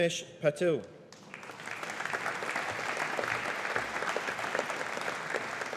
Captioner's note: audience applauding